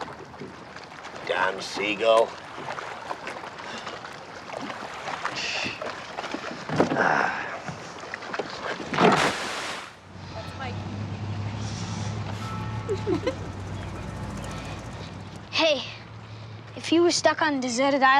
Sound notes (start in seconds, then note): 3.6 sighing; 12.8 both giggling